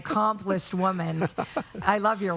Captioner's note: laughing